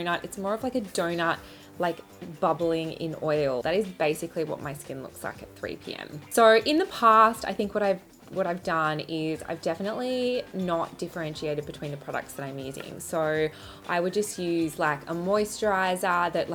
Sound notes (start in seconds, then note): none